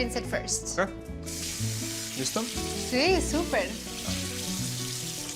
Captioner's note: both speaking Spanish